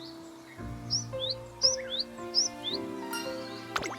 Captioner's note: chirp chirp